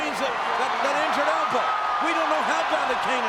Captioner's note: audience cheers